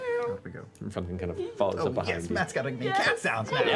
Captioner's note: meows